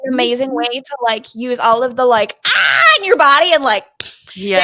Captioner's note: screaming; clapping